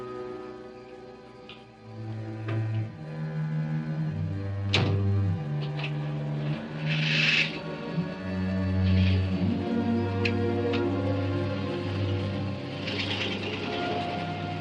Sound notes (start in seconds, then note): 5.6 car engine starting; 11.5 car engine revving